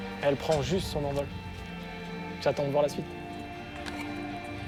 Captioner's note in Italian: parla in francese; musica emozionante